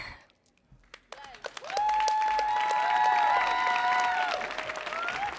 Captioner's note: audience applauding